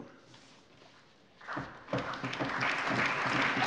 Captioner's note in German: Allgemeiner Beifall